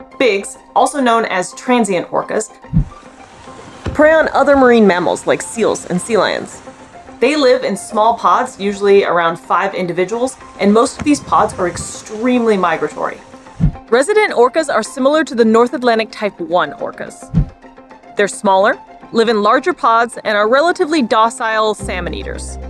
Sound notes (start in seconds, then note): 2.7 background music; 2.7 background water splashing noise; 17.4 background music